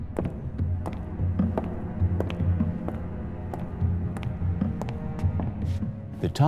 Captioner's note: dramatic music; shoes clicking